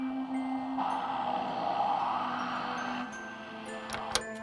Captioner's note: white noise; TV clicks off